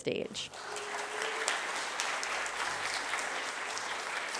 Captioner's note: applause